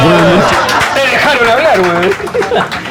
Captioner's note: applauses